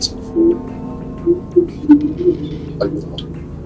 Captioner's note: laughing / humming